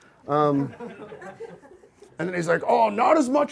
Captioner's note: audience laughs